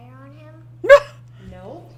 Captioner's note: laughs